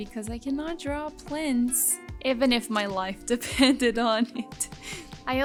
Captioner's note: chuckles